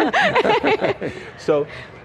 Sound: panel laughs

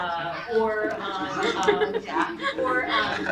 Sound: laughter

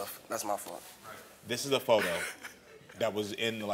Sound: laughs

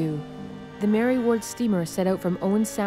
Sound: boat horn

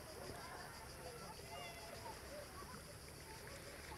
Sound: water lapping

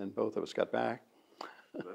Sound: laughs

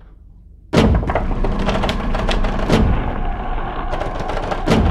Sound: loud banging

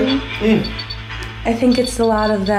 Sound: device beeping

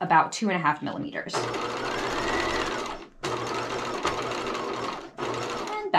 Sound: sewing machine clunking

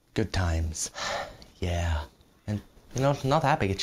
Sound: sigh

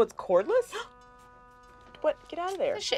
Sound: gasps

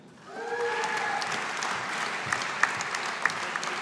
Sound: audience applauding

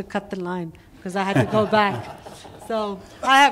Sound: laughter

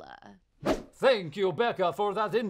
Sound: swoosh

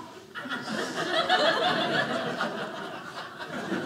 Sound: audience laughing

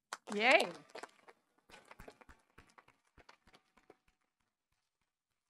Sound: audience applauding

